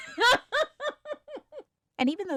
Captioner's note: laughs